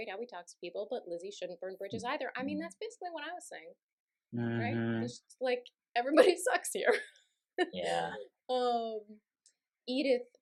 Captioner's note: laughter